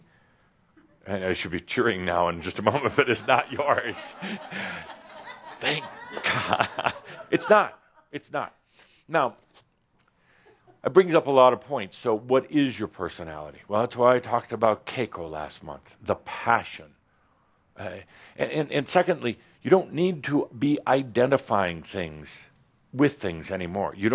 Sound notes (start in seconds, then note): 6.0 laughter